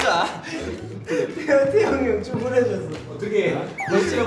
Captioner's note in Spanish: Molesto